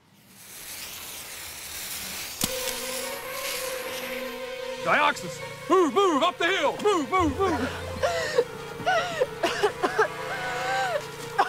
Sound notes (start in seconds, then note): 2.5 gas hissing; 7.4 gasps for air